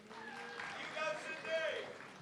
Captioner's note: audience clapping